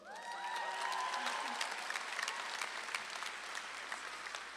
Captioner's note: audience claps and cheers